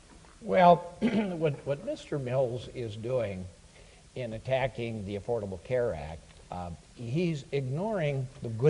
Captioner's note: clears throat